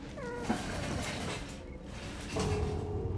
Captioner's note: objects clatter